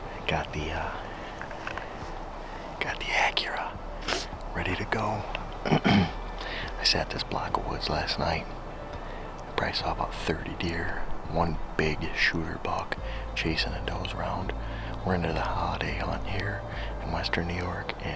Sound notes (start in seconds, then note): 5.6 clears throat